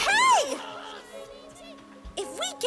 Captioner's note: the chase and chanting all stop